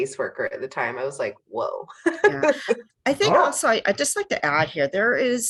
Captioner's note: laughs